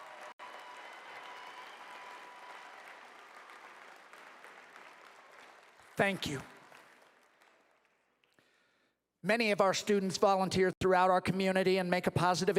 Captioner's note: applause